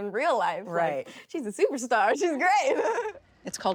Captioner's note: laughing